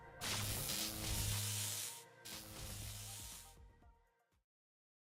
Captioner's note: electrical charge fizzling